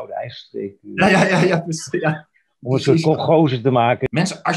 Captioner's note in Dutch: gelach